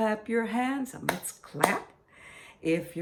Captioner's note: clap, clap